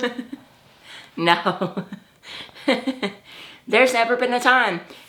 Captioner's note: laughs